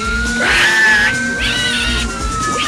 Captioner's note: Buddy squeals loudly